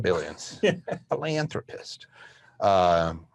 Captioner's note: laughs